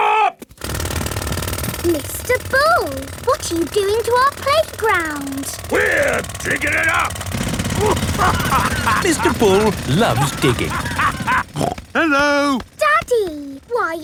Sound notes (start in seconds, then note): 8.0 laughing